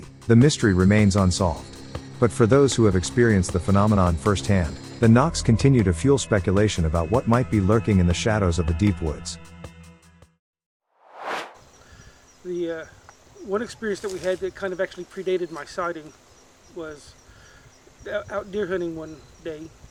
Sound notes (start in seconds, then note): 11.0 air swooshes